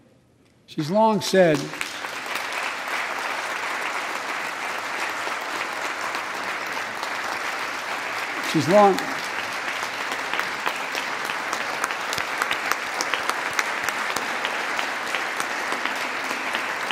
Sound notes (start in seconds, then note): 5.9 applause